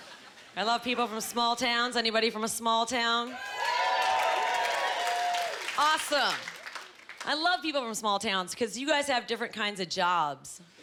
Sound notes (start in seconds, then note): 3.2 cheering